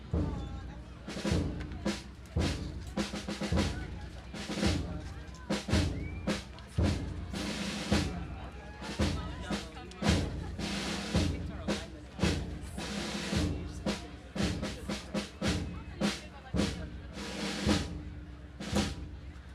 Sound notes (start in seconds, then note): 0.0 gentle drumming music; 3.8 audience chatting indistinctly